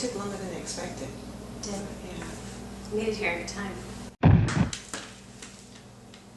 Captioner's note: thud